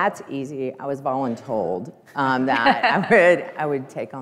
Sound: all laughing

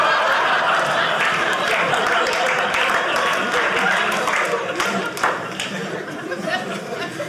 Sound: audience applauding; audience laughing

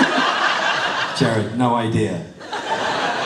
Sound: laughter

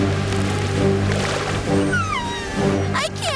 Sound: whimpering

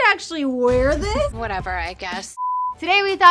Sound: TV beeps

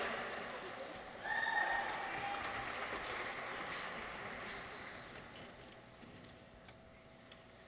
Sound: people cheer; audience applauds

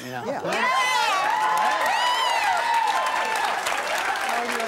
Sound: audience cheers

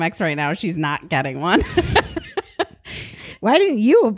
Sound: both laugh

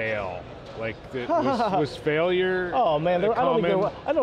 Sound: laughs

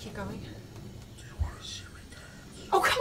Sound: disembodied Voice

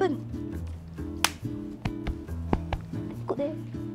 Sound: pats pats

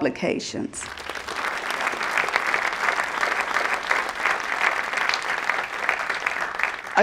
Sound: applause

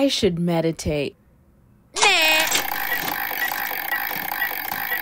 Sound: phone scrolling

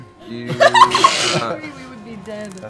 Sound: laughing

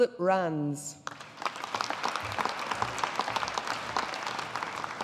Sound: audience applauding

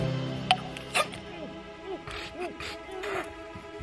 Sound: choking, sputtering

